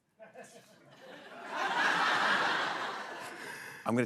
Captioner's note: laughter